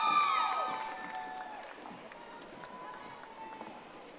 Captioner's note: audience applauding